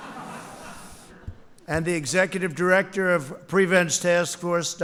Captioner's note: laughter